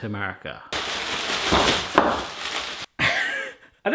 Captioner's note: bag rustling; laughter